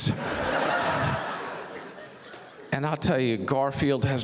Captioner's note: audience laughs